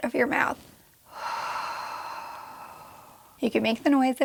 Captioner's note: exhaling